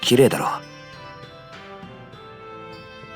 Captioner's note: none